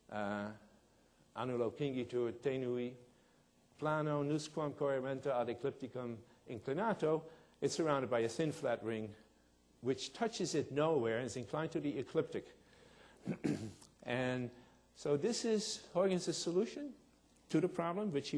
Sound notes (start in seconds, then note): 1.7 speaking in foreign language